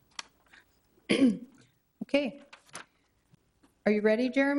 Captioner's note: clears throat